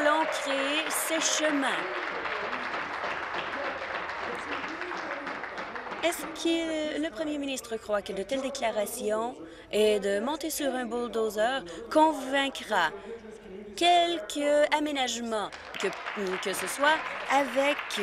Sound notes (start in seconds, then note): 3.8 applause